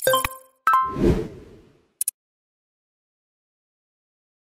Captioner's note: whimsical music; air whooshing